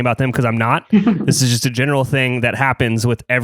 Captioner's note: laughs